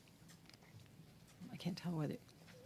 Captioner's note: speaking French